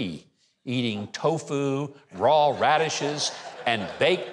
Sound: audience laughs

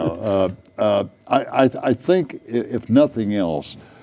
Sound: laughing

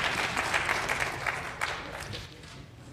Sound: applause

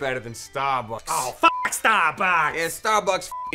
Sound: beep

